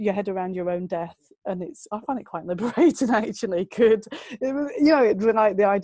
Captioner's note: lacht